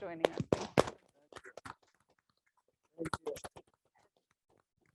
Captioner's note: audience clapping